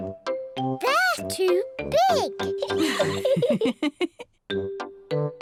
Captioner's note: laughs